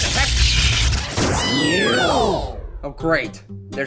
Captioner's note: poof!, Marshmallow cheers